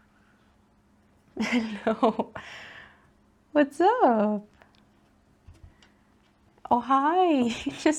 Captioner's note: laughs